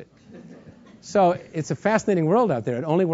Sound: laugh

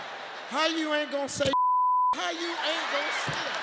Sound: beep

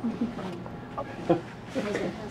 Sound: laugh

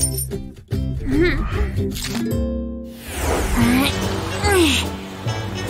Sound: grunting; moaning

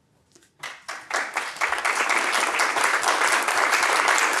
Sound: audience applauds

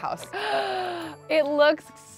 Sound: gasps

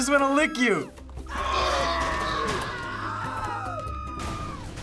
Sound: people scream

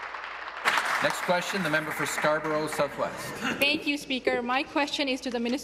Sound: applause

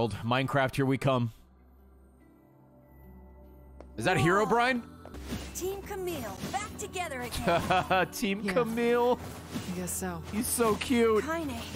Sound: laughs

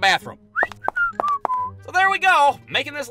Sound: whistles

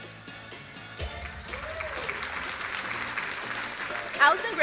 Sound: crowd cheering

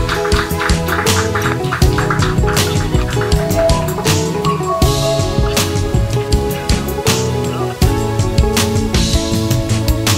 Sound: clapping; upbeat music

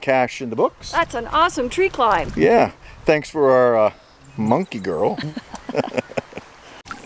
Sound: chuckles

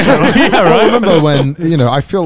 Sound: all laugh

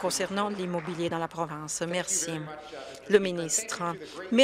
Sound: some Applause

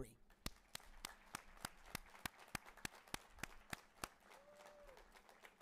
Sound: audience cheering and applauding

